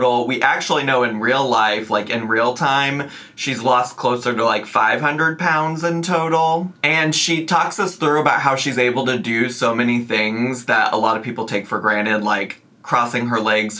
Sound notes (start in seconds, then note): none